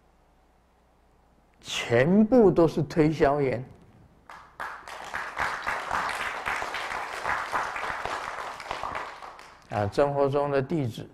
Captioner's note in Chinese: 眾鼓掌